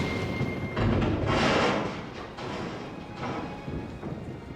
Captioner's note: loud rumbling